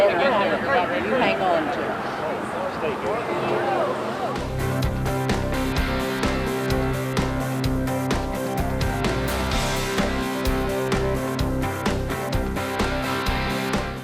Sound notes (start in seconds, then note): 0.0 crowd chatter